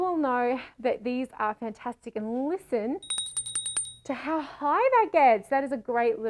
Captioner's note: rings bell